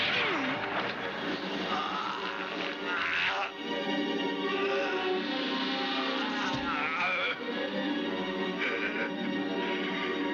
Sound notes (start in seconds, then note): 0.1 yelling; 6.0 chattering